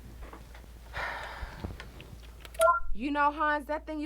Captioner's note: Terra sighs; soundboard beeps